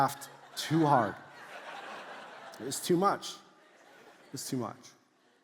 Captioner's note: congregation laughs